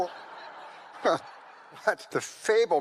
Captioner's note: audience laughs